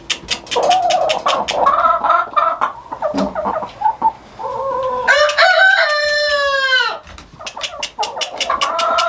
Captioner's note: clucking